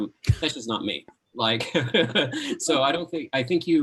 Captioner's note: laughing